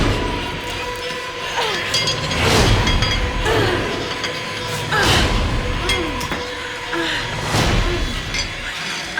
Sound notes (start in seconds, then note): 1.3 groaning; 7.0 moaning